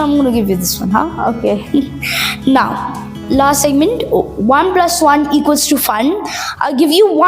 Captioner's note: laughs